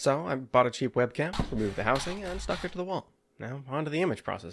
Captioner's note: saw noises